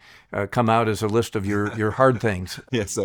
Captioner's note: chuckles